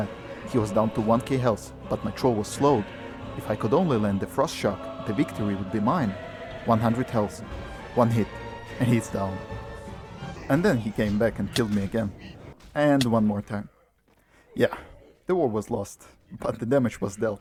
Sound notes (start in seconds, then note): 10.2 evil laugh